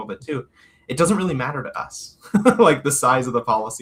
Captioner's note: laughs